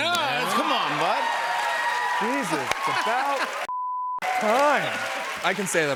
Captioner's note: cheers and applause